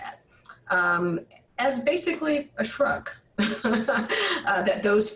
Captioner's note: laughs